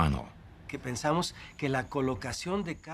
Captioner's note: speaking Spanish